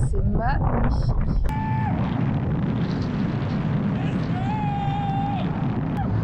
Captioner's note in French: cris d’ qui s’amuse